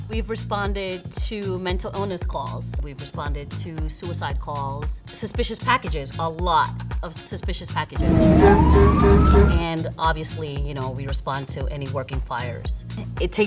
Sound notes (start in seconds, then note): 8.0 horn honking